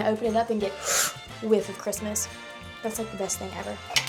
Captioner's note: inhaling